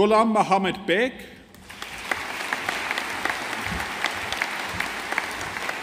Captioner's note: audience applauding